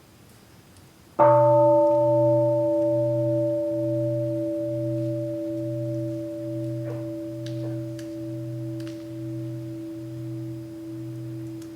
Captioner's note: the bell is invited to sound